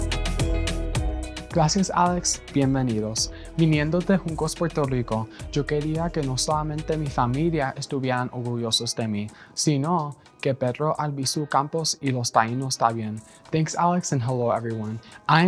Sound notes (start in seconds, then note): 0.0 upbeat music; 1.5 speaking in Spanish